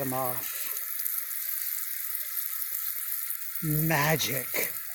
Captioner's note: water trickling